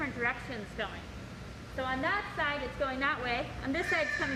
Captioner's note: bird squawks